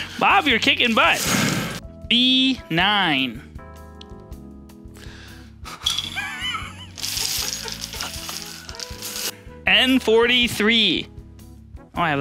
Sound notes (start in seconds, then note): 6.1 laughing